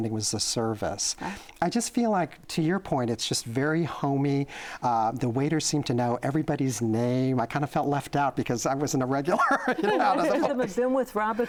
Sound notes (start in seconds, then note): 9.3 laughter